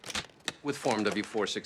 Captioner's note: pops briefcase snaps